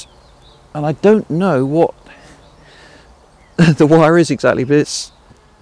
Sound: chuckles

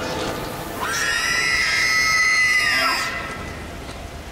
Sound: shrill scream

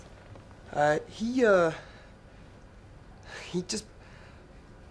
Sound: stuttering

